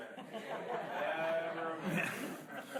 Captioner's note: laughing